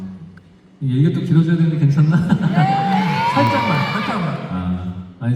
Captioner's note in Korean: 환호